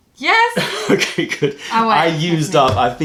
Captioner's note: laughter